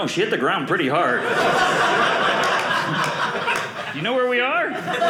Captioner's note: audience laughing